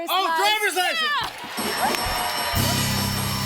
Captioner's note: cheers and applause